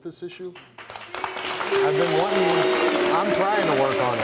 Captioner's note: audience clapping